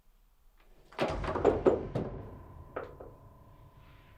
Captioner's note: wooden blocks falling